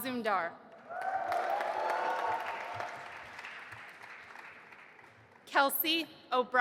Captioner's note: audience applauding and cheering